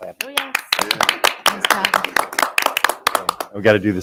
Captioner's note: audience applauding